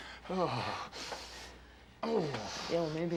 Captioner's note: groans